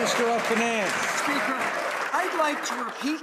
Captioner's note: some Applause